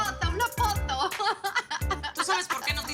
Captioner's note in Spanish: Risas